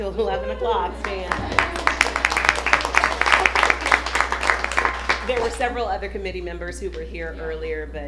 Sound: applause

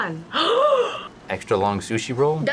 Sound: gasps

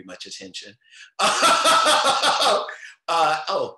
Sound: chuckles loudly

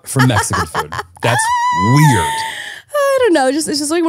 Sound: laughing

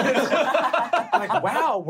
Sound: laughing

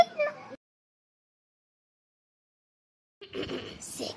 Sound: crying 😭😭😭; evil Cackle

